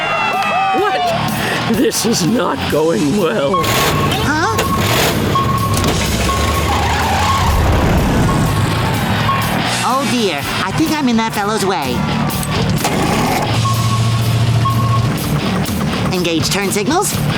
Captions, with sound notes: What? This is not going well. Huh? [beeping] Oh, dear. I think I'm in that fellow's way. [beeping] Engage turn signals.